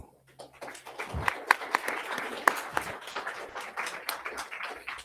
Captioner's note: crowd applauding